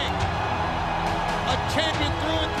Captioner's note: crowd cheering